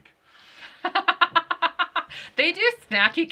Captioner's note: laughing